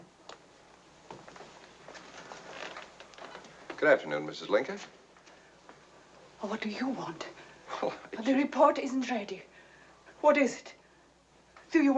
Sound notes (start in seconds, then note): none